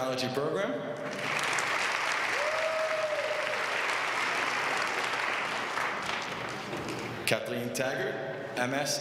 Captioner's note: applause